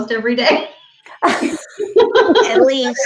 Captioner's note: laughing